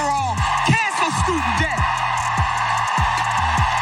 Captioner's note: applause